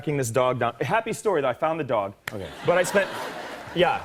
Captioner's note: laughter and applause